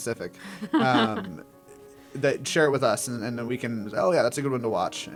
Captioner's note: laugh